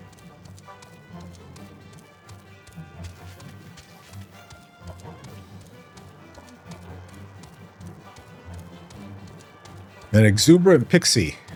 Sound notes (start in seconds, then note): 9.8 laughs